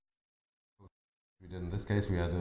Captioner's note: silence